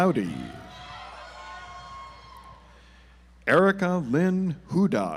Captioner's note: audience applauds